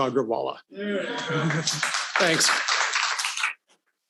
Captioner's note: audience applauding